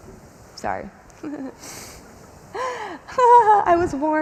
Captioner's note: chuckles